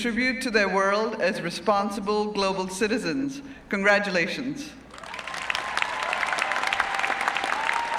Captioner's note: applause